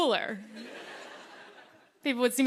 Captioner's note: laughter